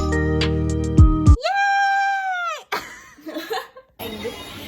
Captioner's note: laugh